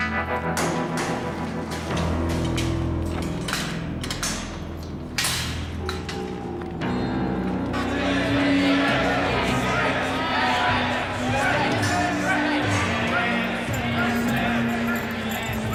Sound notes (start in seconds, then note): 7.7 prisoners shout; 9.7 prisoners chant